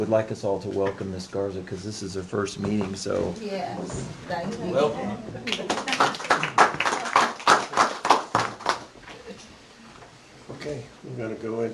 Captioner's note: applause